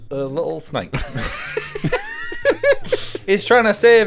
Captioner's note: laughing